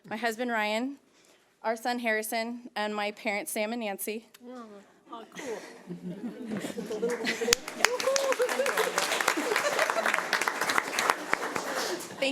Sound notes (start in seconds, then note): 5.3 audience laughs; 6.6 audience applauds